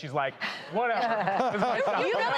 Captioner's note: laughing